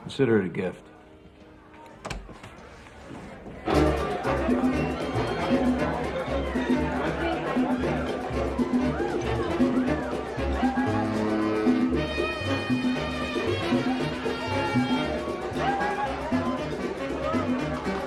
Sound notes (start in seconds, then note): 2.6 patrons chatter; 2.6 upbeat music